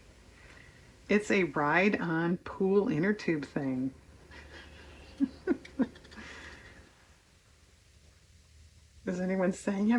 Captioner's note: laughs